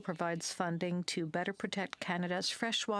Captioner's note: speaking French